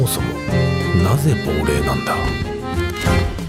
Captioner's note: Japonês - mantido no original